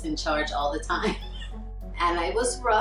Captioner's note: laughs